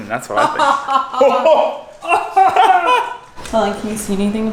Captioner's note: both laughing